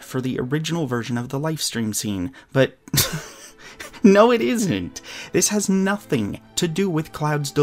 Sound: laughs

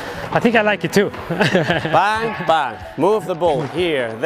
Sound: laughs

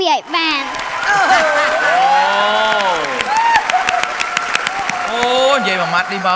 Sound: cheer and applause

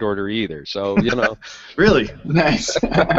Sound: laughs

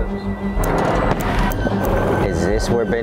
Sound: suspenseful music; door rattling

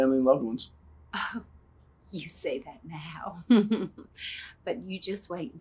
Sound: chuckles

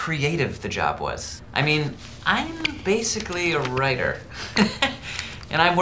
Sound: laughs

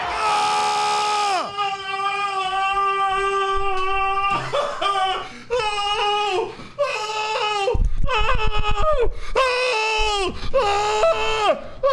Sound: incredibly happy screams; angry screams

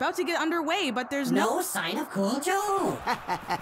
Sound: electronic voice effect; laughing

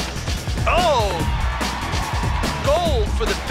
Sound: cheering

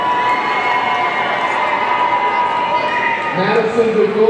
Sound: audience cheering

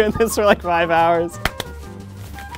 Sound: clap clap

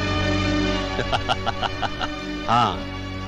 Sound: laughing

